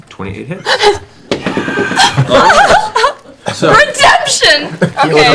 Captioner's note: laughs